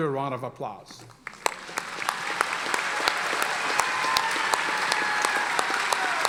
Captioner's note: audience applauding and cheering